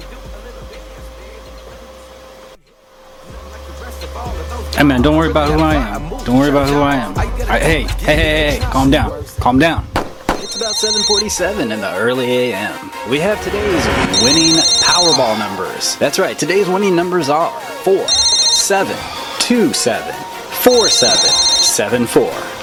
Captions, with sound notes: Hey man, don't worry about who I am. Don't worry about who I am. Hey, ey ey ey ey. Calm down. Calm down! (gunshots firing) (phone ringing) - It's about 7:47, in the early AM. We have today's winning powerball numbers. That's right, today's winning numbers are four, seven, two seven, four seven, seven four.